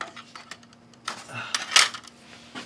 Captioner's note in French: soupire